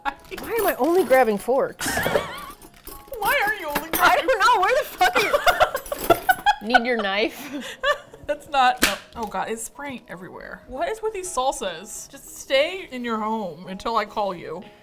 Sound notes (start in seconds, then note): 1.8 laughs; 5.1 laughs; 8.2 knife pops through plastic